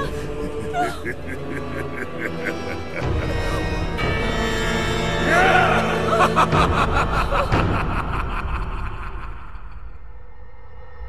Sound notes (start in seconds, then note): 0.0 Ganondorf cackles